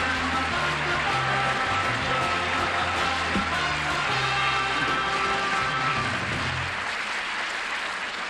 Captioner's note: applause